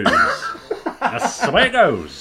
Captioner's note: laughing